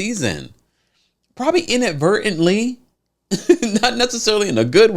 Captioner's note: chuckles